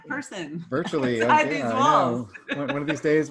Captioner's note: laughs